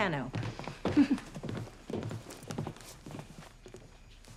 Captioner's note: shoes clacking